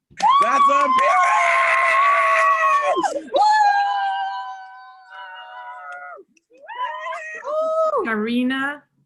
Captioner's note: cheering